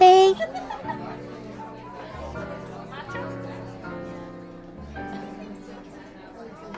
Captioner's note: people laughing and chatting in distance